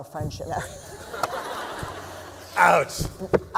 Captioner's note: laughter